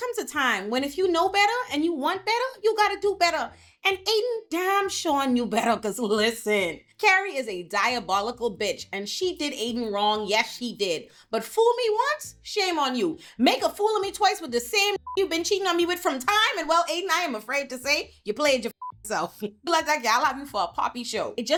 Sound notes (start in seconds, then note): 15.0 beep; 18.7 beep